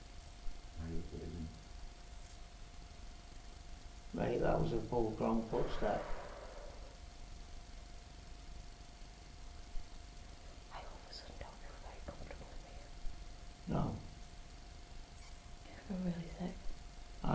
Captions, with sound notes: I hope it isn't Mate that was a full grown footstep Sarah (whispers) - I all of a sudden don't feel very comfortable in here No I've gone really sick